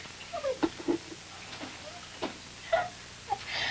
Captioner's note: she laughs